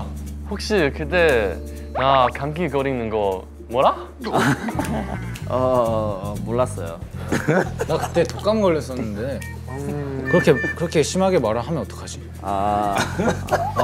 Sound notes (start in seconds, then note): 4.2 ah